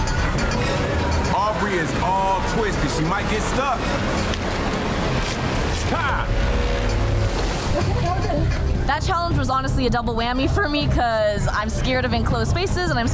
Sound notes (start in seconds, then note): 0.0 metal clanking; 0.1 water rushing; 5.6 flags ripping